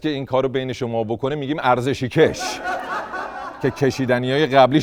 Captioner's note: laughter